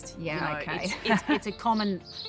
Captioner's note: laughs